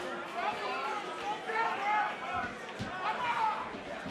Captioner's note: crowd shouting